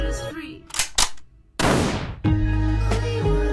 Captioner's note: gun fires